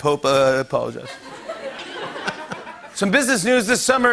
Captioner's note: laughter